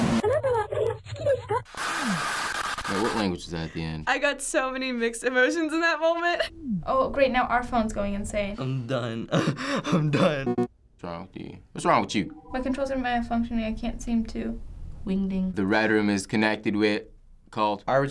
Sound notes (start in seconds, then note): 1.6 screechy static; 10.4 alert blip